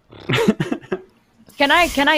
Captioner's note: chuckling